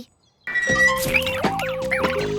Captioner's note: dizzy birds chirp